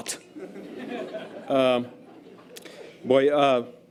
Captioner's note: audience laughter